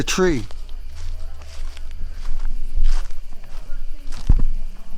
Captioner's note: group chatters